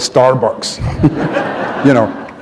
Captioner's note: laughter